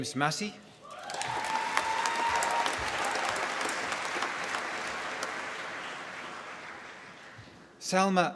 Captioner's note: applause